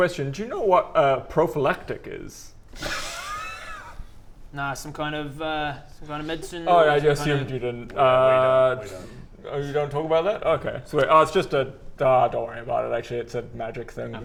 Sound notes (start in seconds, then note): 2.8 awkward giggles